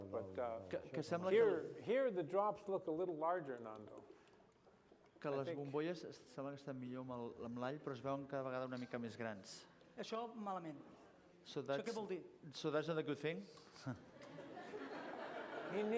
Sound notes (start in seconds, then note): 6.4 non-english speech; 14.1 laughter